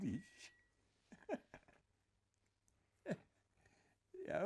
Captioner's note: laughing